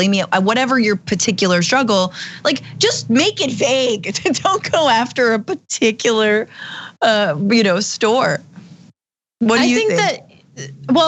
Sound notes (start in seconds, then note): 4.1 laugh